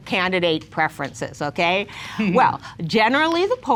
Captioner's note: laughs